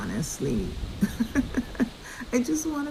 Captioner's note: chuckles